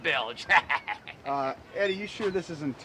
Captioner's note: laughs